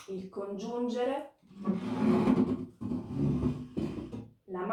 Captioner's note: chair scratches